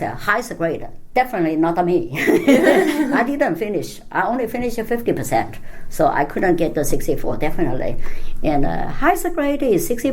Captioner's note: all laugh